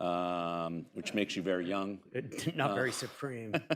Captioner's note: laughter